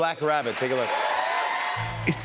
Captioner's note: cheers and applause